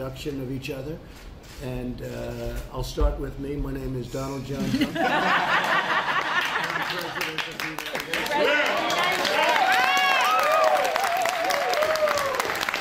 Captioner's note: laughter